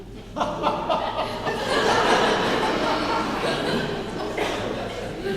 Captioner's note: laughing